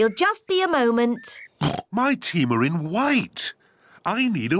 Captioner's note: oinks